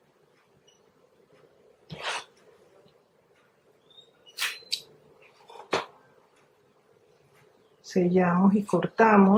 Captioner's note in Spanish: resoplido